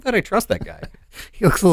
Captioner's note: chuckles